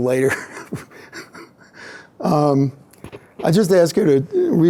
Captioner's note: laughs